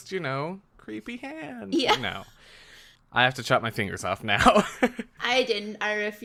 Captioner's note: laughs